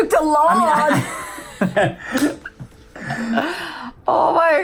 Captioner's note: both laugh